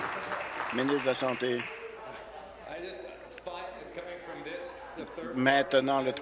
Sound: applause

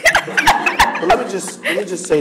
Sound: audience laughing

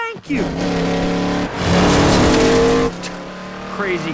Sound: engine revving; scoffs

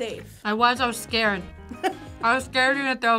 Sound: React laughs

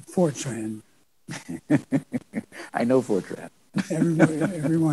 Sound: chuckles

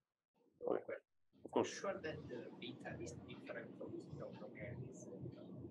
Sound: person 2 faintly speaks

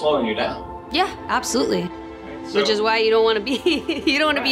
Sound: laughs

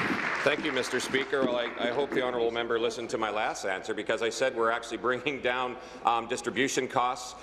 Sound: applause

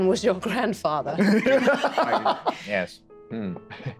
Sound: group laughing

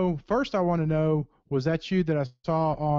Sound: voiceover

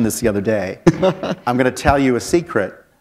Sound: chuckle

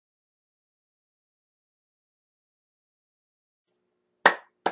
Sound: clapping

